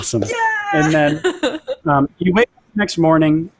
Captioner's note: laughs